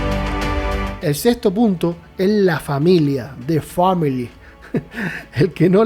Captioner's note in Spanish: risas